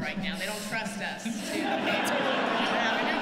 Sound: laughter

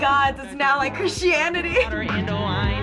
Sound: chuckles

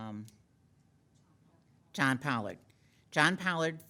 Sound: woman speaking faintly

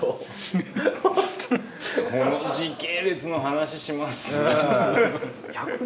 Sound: laughs

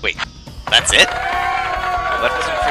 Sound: in-game crowd cheers for lugbzurg

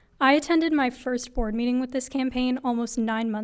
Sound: none

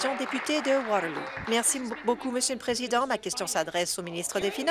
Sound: applause

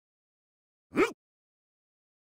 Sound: surprised umph

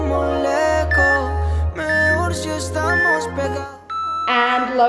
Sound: timer beeping

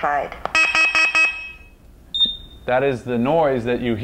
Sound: alarm beeps

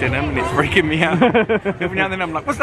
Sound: laughs

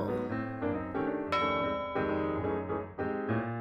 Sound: ding

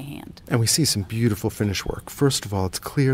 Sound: voiceover

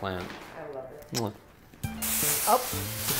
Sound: smacks

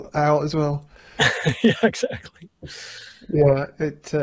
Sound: laughing

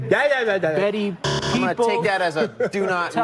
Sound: buzzer

